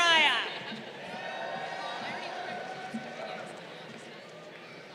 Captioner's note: crowd cheering